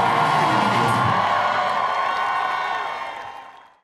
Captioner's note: song ends; cheering